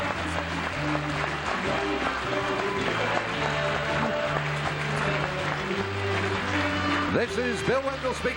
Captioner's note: applause